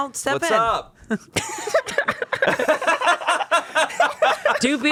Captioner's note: everyone laughs